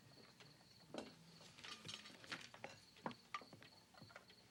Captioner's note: crickets chirping